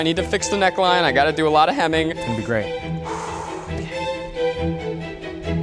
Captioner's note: sighs; intense music